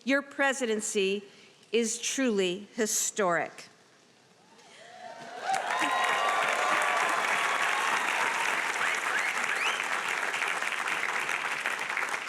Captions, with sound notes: your presidency is truly historic. (audience applauding and cheering)